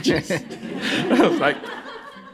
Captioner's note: laughter